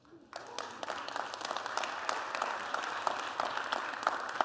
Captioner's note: applause